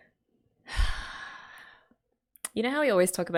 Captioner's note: sighs